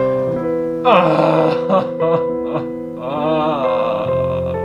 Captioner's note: sad Music; hysterical Crying